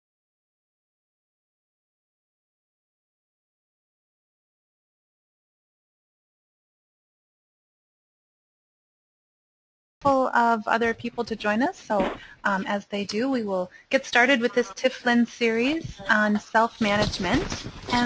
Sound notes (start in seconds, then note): 10.3 voiceover